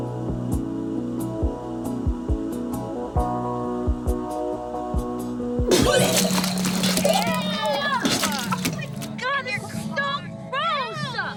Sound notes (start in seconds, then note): 5.8 gasping